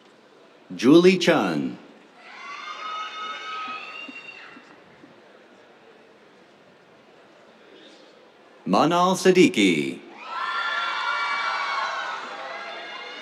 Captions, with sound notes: Julie Chun. [CHEERS] Manaal Siddiqui. [CHEERS, APPLAUSE]